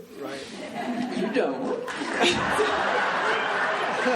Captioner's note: laughing